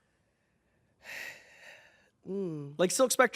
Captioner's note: exhales